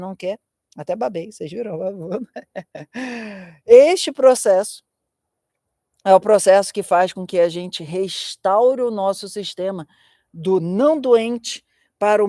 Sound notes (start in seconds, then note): 2.0 laughter; 2.9 sighing